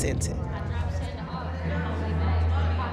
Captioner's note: chatter